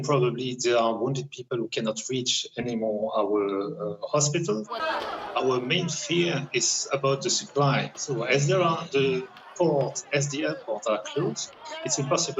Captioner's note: speaking alternate language